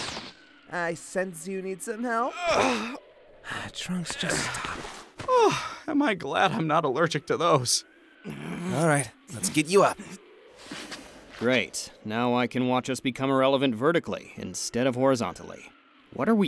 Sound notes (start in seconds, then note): 2.4 Yamcha groans due to Trunks' bad joke; 3.5 quietly